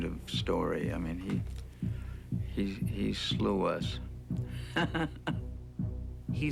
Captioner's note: chuckles